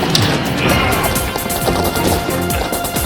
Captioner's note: grunting